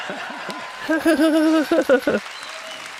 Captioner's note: jp’s weird giggle impression